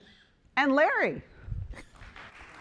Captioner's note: applause